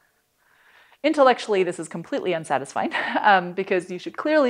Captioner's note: laughter